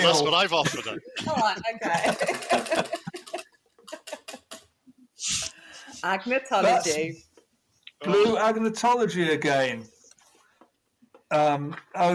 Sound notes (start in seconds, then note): 2.1 wheel ticking